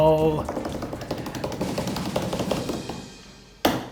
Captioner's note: hands patting